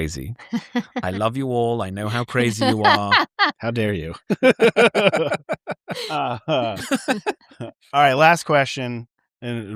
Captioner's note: laughter